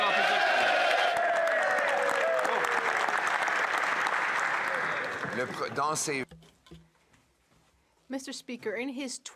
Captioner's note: some Applause